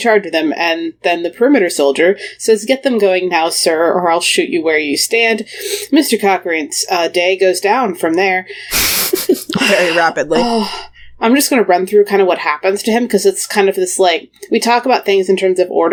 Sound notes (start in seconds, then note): 8.7 sighs; 8.7 laughs